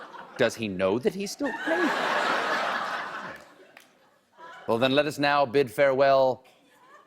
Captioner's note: laughter